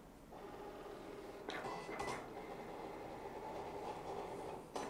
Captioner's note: machine whirring